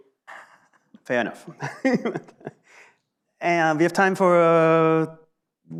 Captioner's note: laughs